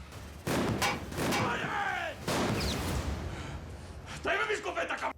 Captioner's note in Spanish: continúa la balacera